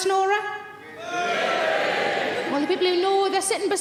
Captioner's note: audience members yell